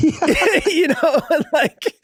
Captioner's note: Charlie laughing amusingly; Glenn laughing amusingly